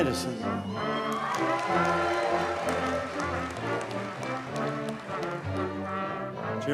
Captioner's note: audience cheers and applauds